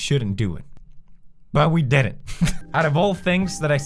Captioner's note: laugh